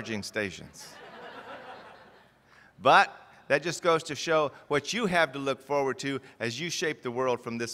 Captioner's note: laughter